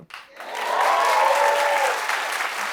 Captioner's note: cheers and applause